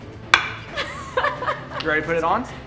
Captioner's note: laughs